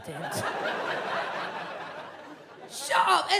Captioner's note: audience laughs